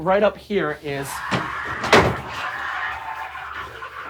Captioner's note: shrieking, rattling